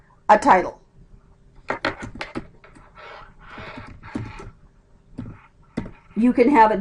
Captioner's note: typing